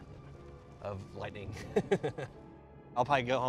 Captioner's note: laughs